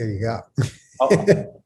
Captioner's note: laughs